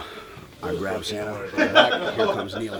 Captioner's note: laughter